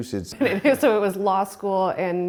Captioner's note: laughs